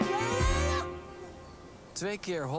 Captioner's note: little cry